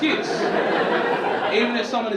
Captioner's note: audience laughing